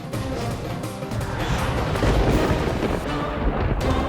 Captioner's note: thundering